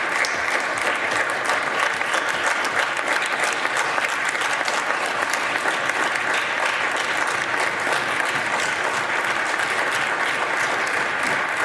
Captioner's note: applause